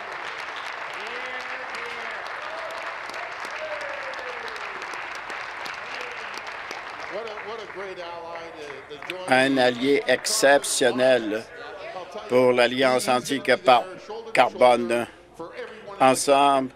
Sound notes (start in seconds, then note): 1.6 applause; 6.7 continued applause